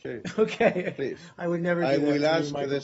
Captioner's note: laughter